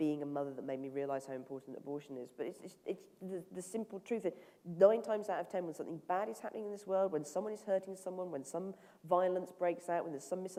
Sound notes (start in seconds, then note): none